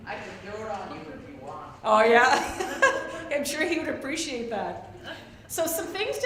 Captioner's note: laughs